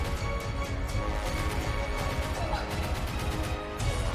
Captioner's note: panic cries